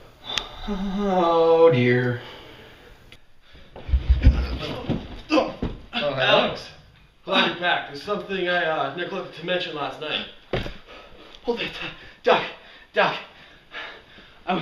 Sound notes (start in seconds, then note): 4.1 Alex grunts as he falls down the stairs